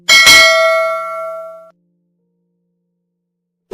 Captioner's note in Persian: صدای زنگ